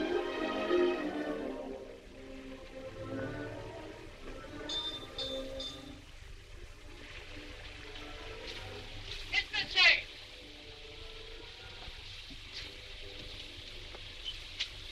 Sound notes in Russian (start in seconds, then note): 4.6 звонит колокольчик